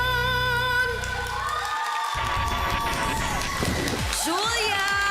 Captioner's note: audience clapping and cheering